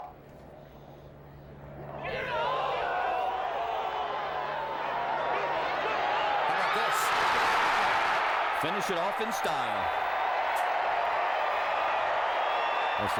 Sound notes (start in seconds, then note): 1.9 <i> crowd cheering</i>; 10.7 <i> cheering and applause</i>